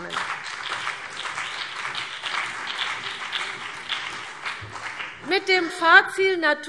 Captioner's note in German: Beifall BÜNDNIS 90/DIE GRÜNEN und vereinzelt CDU